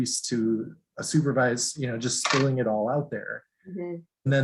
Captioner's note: none